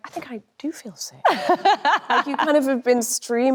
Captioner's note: Anne laughs cheerfully